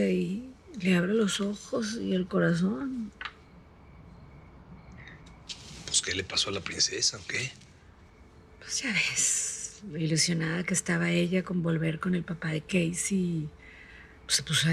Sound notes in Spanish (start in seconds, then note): none